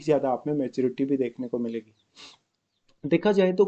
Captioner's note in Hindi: नाक से की जाने वाली आवाज़